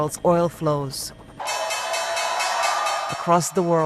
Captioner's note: bell ringing